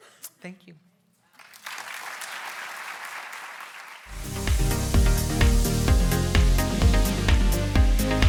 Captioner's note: applauds